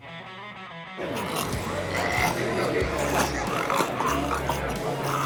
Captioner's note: Mikey fake gags